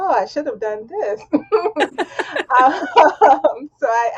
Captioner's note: laughing